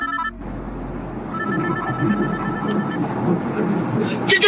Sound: phone ringing

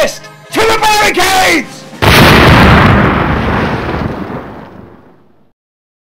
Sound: loud explosion

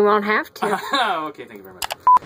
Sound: laughs; beeping

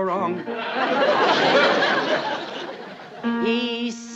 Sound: laughter

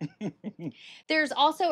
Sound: laughs

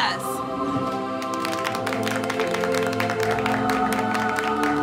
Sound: group applauds

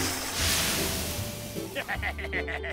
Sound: sizzling, steaming; laughing

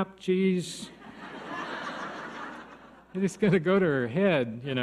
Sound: audience laughs

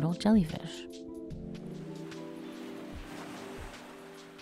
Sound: waves crashing

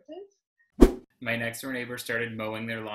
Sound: whoosh

